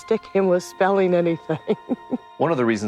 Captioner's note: laughs